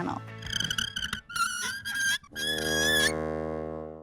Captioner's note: marker scratches